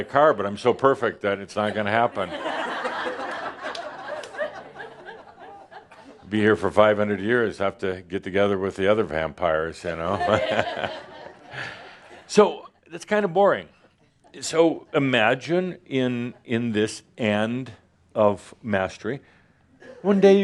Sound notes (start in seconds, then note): 4.5 laughter; 9.5 Adamus chuckles